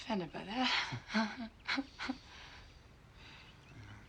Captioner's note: chuckles